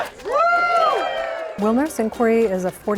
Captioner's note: crowd cheering